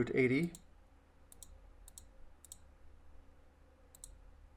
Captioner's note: mouse clicking